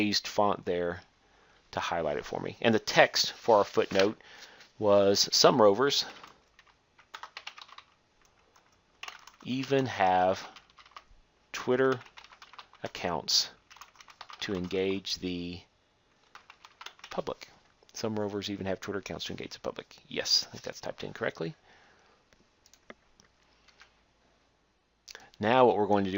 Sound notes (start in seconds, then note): 9.0 typing; 13.6 typing; 22.6 click